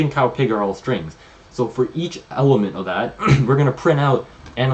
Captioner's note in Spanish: se aclara la garganta